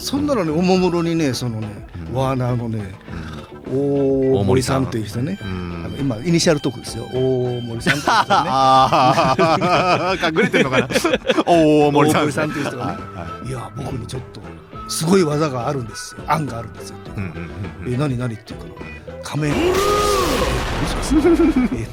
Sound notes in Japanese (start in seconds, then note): 11.1 笑い; 19.4 叫び声